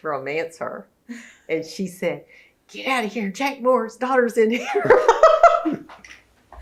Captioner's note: laughs